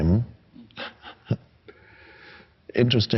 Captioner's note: chuckles